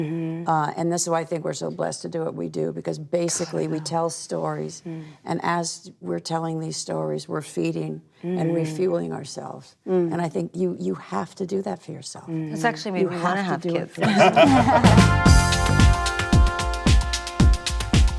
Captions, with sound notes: - And that's why I think we're so blessed to do what we do because basically we tell stories and as we're telling these stories, we're feeding and refueling ourselves. And I think you have to do that for yourself. - This actually made me want to have kids. (laughter) (upbeat music)